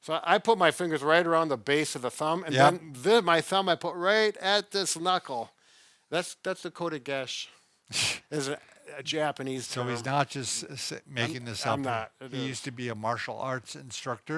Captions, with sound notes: So I put my fingers right around the base of the thumb. - Yeah. - And then my thumb I put right at this knuckle. That's the (foreign language). - Tsh. - It's a Japanese term. - He's not just making this up. - I'm not, it is. - He used to be a martial arts instructor.